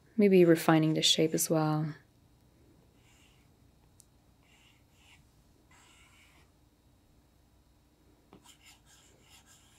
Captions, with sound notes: Maybe refining the shape as well. (pencil scratching)